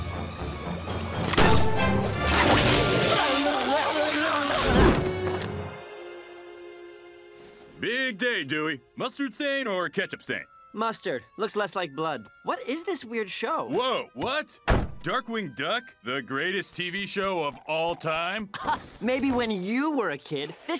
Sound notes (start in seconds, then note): 2.9 both blubbering